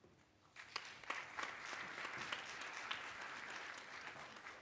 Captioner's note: audience applause